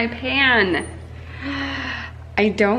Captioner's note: gasps